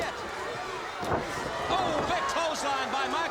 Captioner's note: crowd cheering